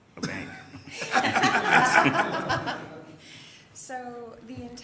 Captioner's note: laughter